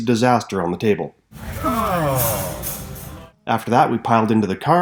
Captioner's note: groaning